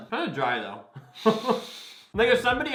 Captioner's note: both laugh